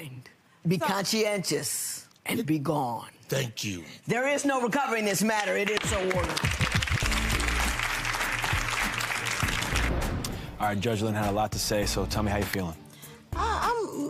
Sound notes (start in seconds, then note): 5.3 applauding